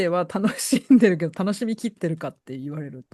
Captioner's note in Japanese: 笑い